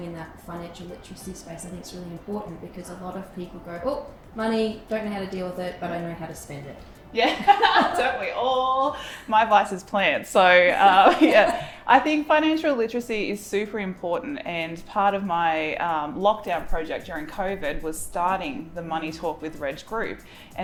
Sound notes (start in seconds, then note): 7.2 both laughing; 10.8 both laughing